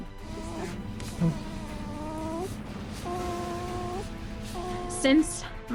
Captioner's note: newborn baby coos